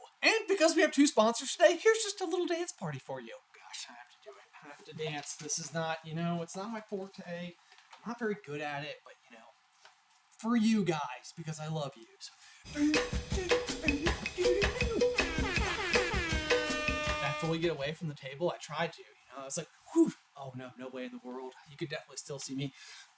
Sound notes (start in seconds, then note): 12.6 sick beat; 15.0 air horn; 15.3 sick beat